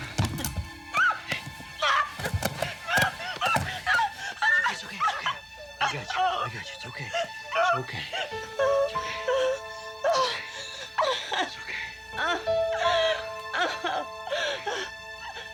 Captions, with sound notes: (screaming) It's okay, it's okay. I gotcha, I gotcha, it's okay. It's okay, it's okay. (crying) (dramatic orchestral music)